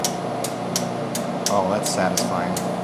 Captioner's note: machine whirring; metal clicking